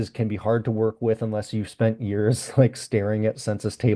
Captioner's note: laughs